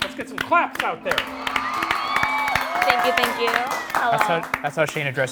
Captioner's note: audience cheering